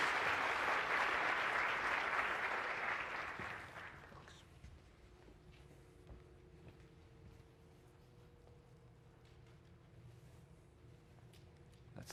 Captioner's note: applause